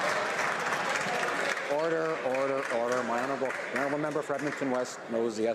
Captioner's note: some Applause